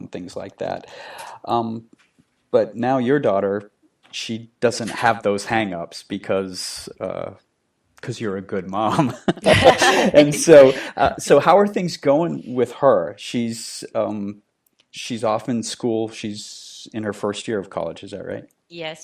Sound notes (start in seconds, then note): 9.0 laughing